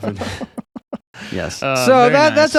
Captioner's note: laughing